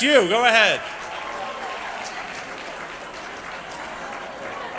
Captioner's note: applause